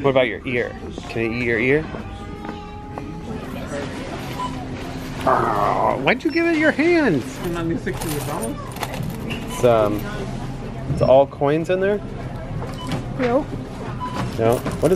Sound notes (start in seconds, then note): 5.2 growls